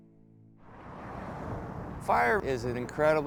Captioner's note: car engines revving